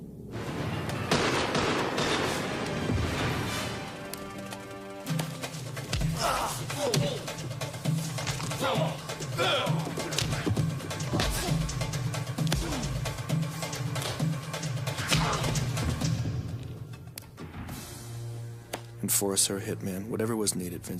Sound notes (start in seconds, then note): 0.3 dark intense music; 0.4 gun firing; 5.0 fast rhythmic music; 6.1 man grunting